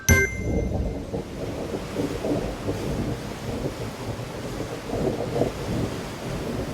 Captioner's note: thunder rumbling; rain pattering